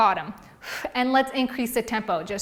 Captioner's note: exhales loudly